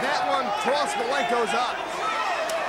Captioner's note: crowd chatter